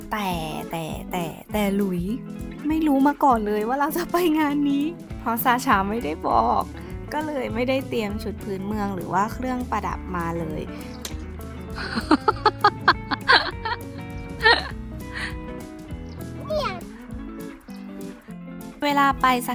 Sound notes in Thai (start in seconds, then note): 11.7 เสียงหัวเราะ